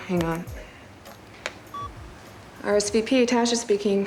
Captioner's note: beeps